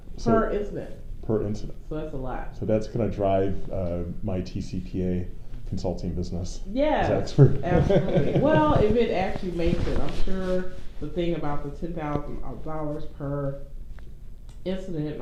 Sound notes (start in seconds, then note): 7.4 laughs